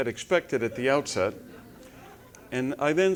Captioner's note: laugh